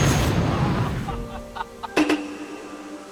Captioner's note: laugh